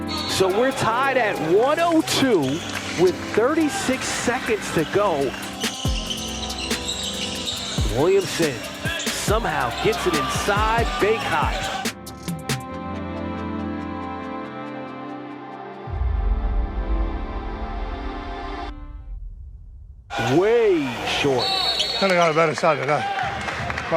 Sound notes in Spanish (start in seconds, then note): 5.7 chirrido de zapatillas; 12.0 música tranquila